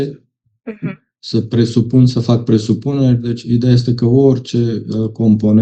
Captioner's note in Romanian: voce dreasă